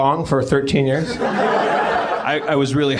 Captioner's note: laughs